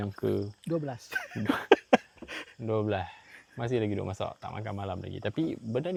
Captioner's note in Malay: ketawa